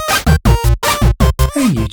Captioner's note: computer Game sounds